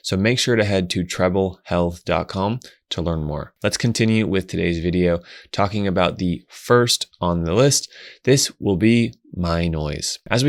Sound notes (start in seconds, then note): none